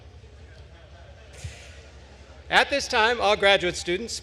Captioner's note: attendees laughing